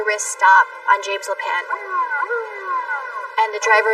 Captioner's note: siren wailing